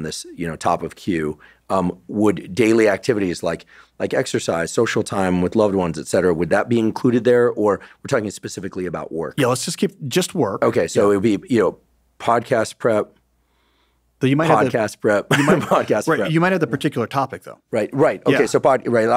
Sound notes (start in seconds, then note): 15.3 laughing